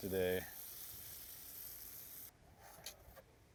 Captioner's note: water rustling